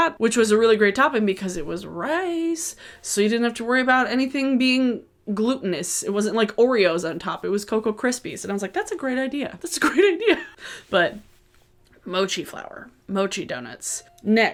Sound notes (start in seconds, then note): 10.8 laughs